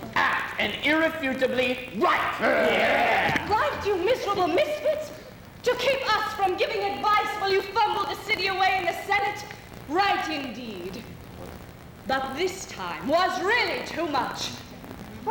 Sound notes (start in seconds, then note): 2.2 men voice agreement